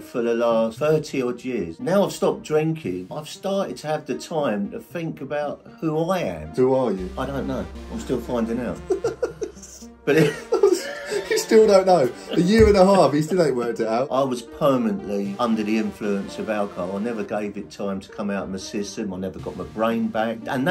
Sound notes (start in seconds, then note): 8.7 host laughing